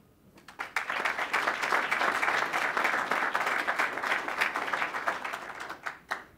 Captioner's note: applause